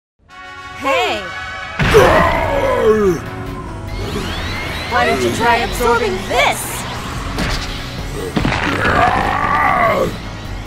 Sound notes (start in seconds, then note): 1.9 groans in pain; 8.7 yells in pain